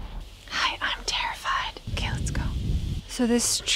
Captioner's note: whispering